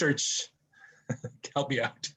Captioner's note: chuckles